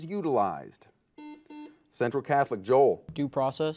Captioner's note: buzzer beeping